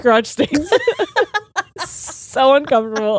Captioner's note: both laughing